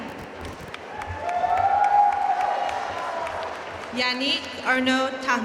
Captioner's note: audience cheering and applauding